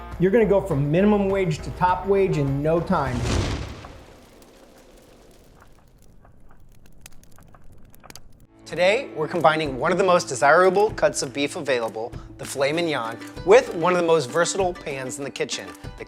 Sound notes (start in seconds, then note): 2.8 bang